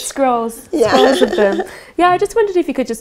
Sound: laughs

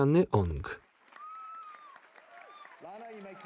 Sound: audience applauding

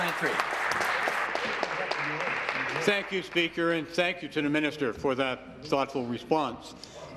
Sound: applause

